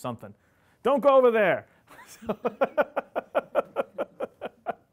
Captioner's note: laughing